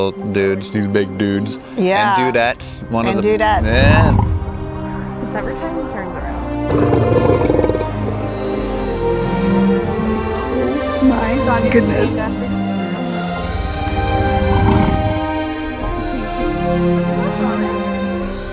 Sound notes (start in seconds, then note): 3.6 growl; 6.6 low growl; 14.0 growl